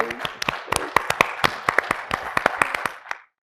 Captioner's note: audience applauding